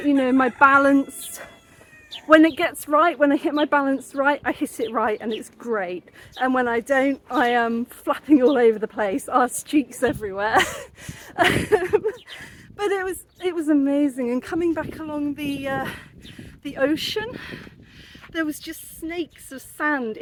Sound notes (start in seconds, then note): 10.4 laughing